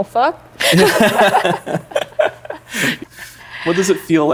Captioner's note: laughing